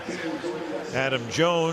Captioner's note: pa announcement